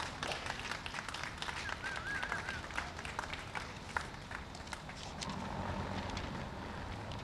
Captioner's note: applause